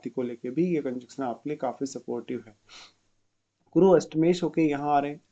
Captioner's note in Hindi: नाक से की जाने वाली आवाज़